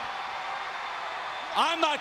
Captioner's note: crowd cheering